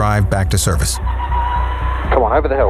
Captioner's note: engine straining